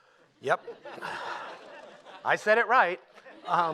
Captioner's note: laughter